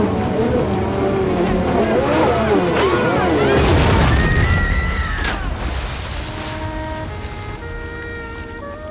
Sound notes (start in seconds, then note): 3.6 explosion